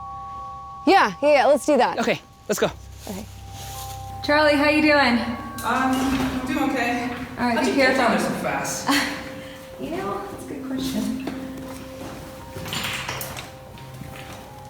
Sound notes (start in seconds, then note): 8.8 chuckles; 11.7 eerie music